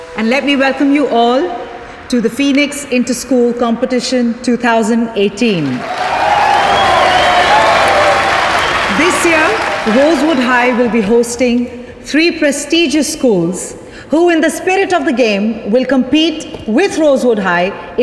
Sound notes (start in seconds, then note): 5.6 All cheering, clapping